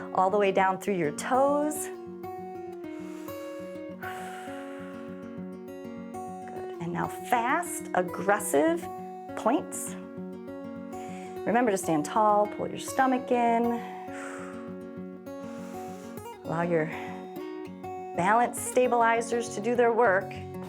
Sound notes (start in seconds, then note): 2.8 inhales and exhales; 15.3 exhales and inhales